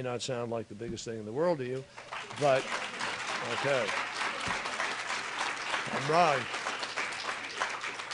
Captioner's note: applause